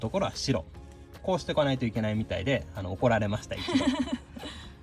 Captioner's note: laughs